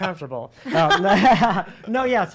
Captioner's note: laughs